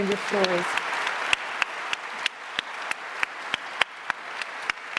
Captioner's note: audience applauds